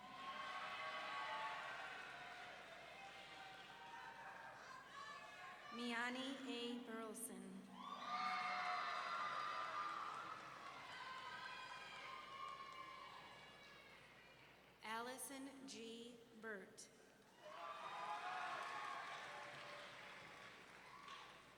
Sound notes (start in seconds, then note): 0.0 audience members cheering; 7.7 audience members screaming; 17.4 audience members cheering